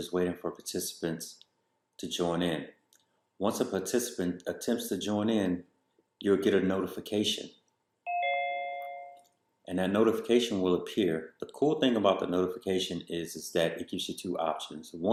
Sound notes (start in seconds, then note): 8.0 chime sound